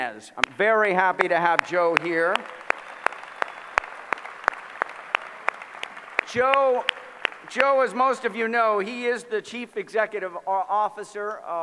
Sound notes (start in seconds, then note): 1.1 applause